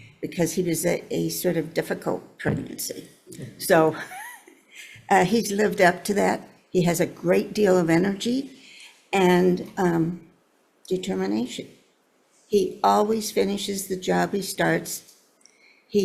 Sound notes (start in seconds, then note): 3.9 laughs